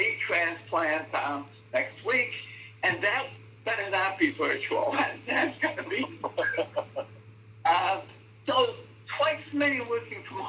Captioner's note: laughter